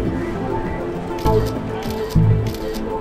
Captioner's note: camera snaps